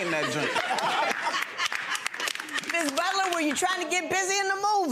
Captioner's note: gallery laughs